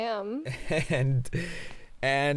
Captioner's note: chuckles awkwardly